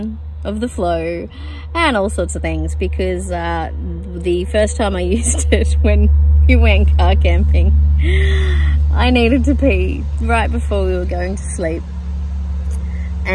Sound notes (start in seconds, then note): 5.9 laughingly